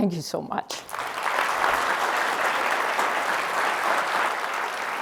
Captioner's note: audience clapping